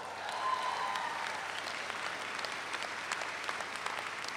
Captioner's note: audience applauds